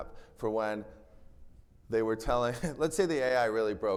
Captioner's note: chuckles